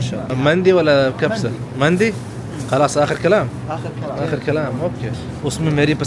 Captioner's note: Arabic